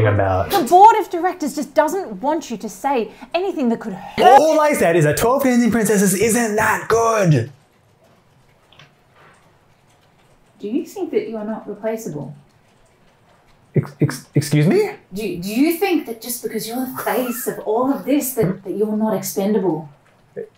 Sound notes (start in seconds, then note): 9.4 beat - then with a threatening tone